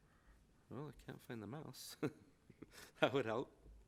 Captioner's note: chuckles